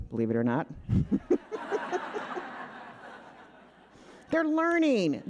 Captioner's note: all laughing